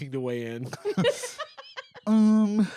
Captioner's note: laughs